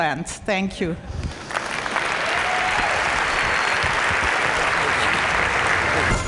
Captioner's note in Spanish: Aplausos